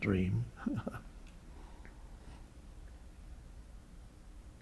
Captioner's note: Eckhart chuckles